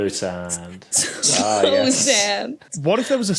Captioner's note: snickers